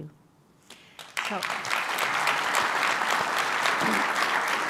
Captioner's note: applause